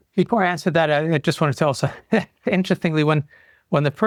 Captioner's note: laughs